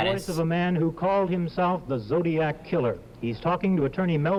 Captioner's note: voice-over